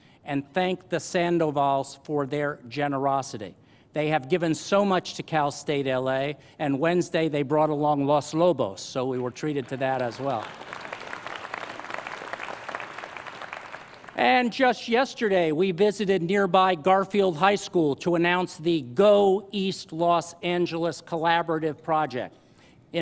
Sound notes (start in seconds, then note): 10.6 applause